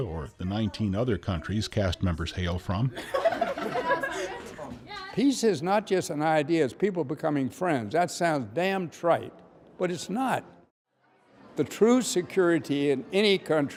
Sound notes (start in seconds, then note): 2.9 laughter